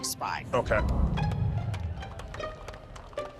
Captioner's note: soft, quirky music; clapping